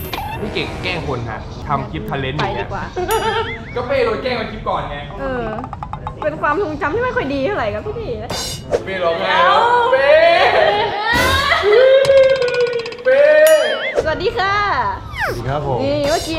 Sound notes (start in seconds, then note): 11.0 is crying